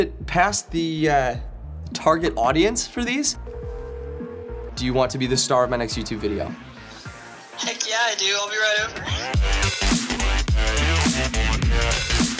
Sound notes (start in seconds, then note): 3.4 phone ringing; 9.6 techno music